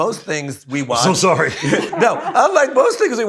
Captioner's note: laughs